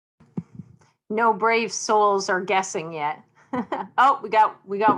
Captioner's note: chuckles